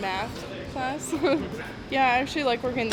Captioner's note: chuckles